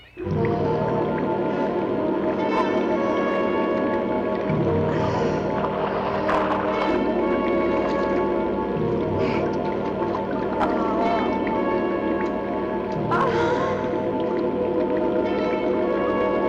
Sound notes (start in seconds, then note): 0.2 dramatic music; 13.0 sighs